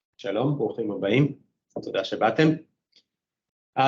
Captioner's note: speaking in Hebrew